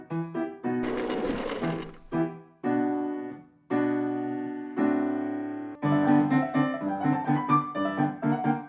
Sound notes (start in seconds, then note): 0.8 rolling wheels